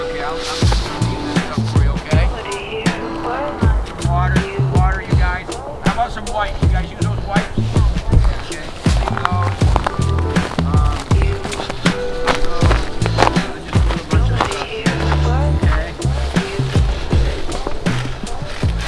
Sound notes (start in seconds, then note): 7.8 woman chattering; 12.3 chattering